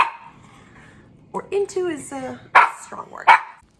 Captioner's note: dog barking